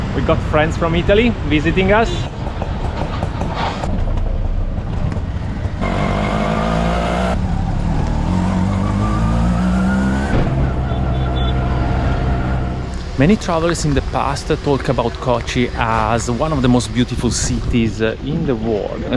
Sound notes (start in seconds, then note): 2.2 auto engine